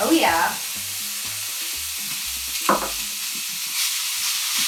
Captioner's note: bacon sizzling